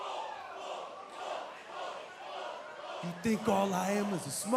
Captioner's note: fans chanting